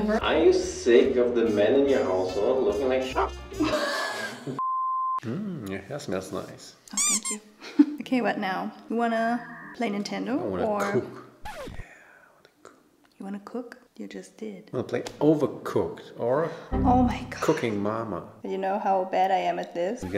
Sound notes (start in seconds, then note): 3.2 dog barks; 3.6 laughs; 4.6 beep; 6.9 toy squeaks